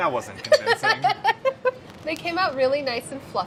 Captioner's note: laughs